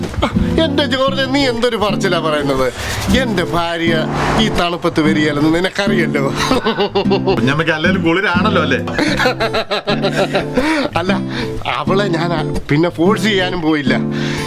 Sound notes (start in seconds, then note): 6.2 laughs; 9.1 laughs